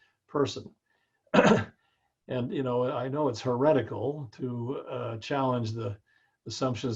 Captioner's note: cough